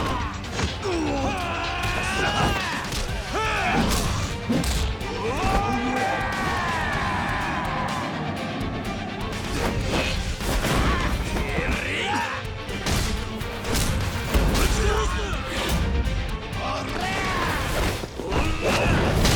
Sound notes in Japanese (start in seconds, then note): 0.6 うめき声; 0.8 叫び声; 7.4 叫び声